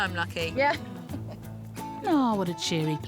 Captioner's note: laughs